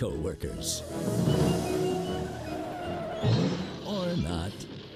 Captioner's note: whimsical music; tires screeching